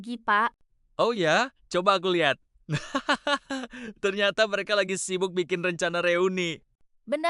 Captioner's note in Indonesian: tertawa